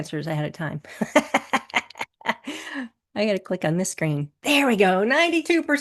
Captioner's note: chuckles